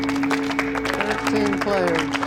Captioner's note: applause